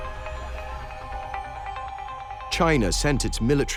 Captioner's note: shouting